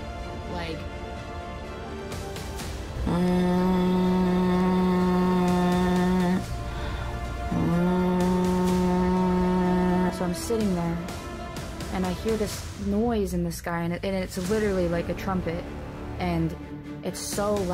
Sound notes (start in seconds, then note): 2.8 humming; 17.5 dramatic music